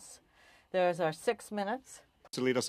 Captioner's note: speaking French